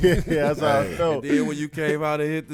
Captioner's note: laughing